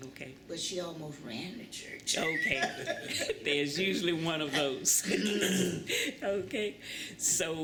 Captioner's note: laughter